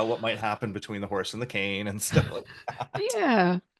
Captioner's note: laughs